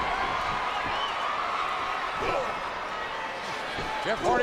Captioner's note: audience cheering and clapping